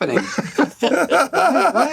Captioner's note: laughter